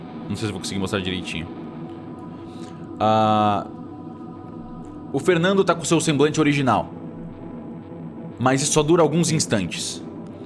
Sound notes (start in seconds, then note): none